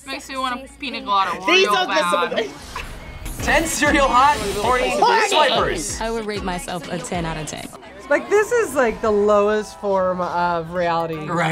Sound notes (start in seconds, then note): 1.9 laughs